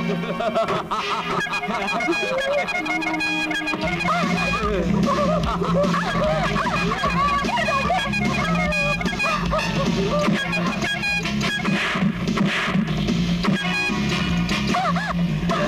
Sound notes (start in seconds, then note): 0.0 laughs; 1.2 horn blares